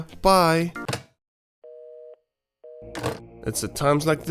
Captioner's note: receiver clicks